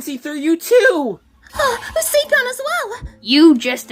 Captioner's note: Hailey gasps